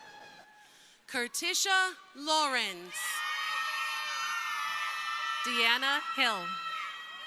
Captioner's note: crowd cheering; crowd cheering